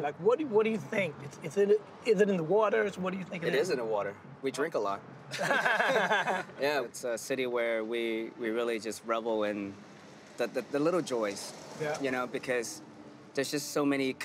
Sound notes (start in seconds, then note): 5.3 laughter